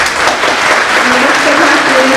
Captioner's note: applause